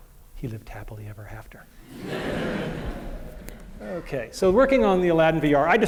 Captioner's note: laughter